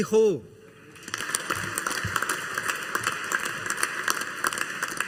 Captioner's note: audience applauding